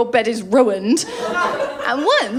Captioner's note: laughter